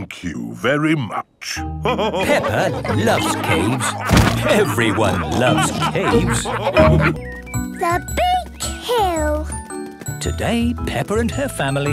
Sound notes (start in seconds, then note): 1.8 all laughing